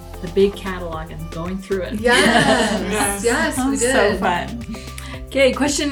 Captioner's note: women laughing